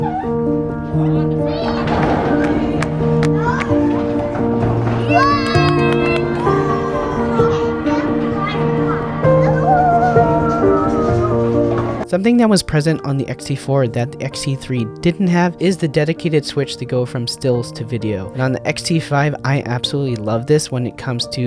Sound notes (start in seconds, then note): 0.0 joyful piano music; 5.8 cheer